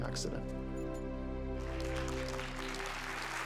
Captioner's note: applause